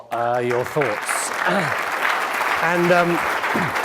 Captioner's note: audience clapping